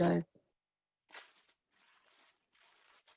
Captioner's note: sound of ripping paper